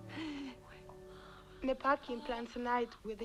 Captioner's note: Hundra whispering